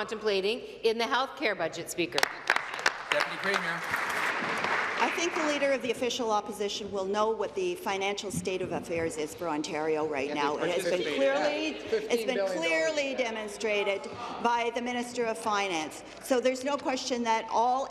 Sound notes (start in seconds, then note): 6.7 applause